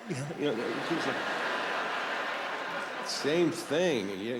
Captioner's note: laughter